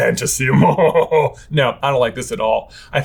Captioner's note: laughing mysteriously